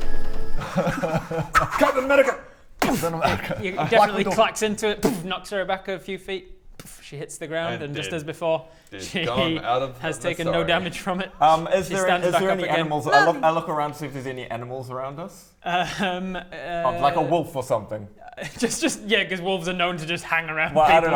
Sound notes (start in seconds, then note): 2.8 boof!; 5.0 boof!